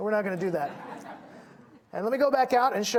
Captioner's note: audience laughing